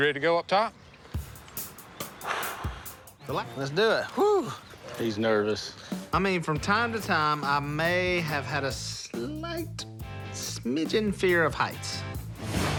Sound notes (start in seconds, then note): 2.0 sighs